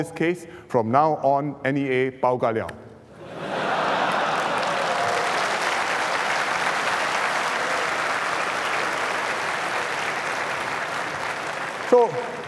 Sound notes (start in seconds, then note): 3.2 laughter and applause